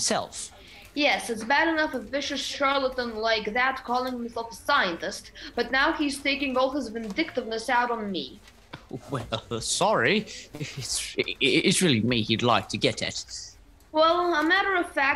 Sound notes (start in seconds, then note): 10.5 chuckles